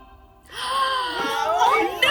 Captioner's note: women gasping